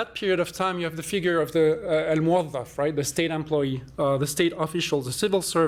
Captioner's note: non-english